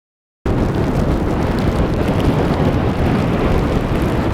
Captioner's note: snow storm asmr sounds